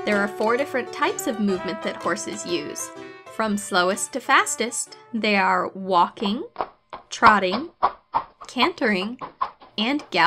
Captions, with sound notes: There are four different types of movements that horses use. From slowest to fastest they are walking, (horse hooves clomping) trotting, cantering, and galloping.